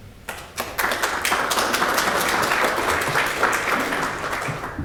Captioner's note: audience applauds